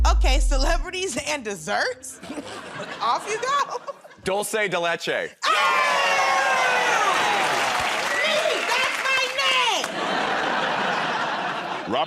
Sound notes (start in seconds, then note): 2.2 chuckles; 5.4 cheers and applause; 9.8 laughter